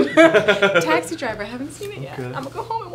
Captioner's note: laughing